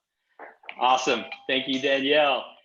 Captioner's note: Cory's phone chiming